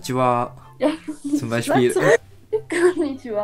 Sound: German

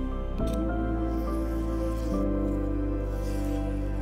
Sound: paper scratching

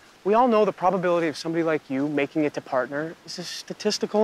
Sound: none

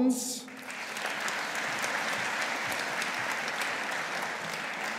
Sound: audience applauding

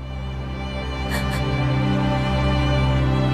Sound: sobbing

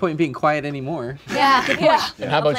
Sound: laughing

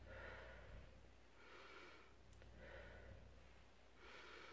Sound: inhales then exhales

